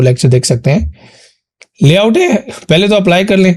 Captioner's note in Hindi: नाक से की जाने वाली आवाज़